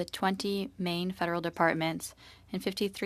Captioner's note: speaking French